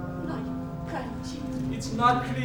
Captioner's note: speaking in a foreign language